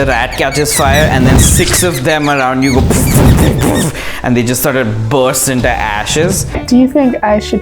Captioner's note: boom-Boom-Boom-Boom!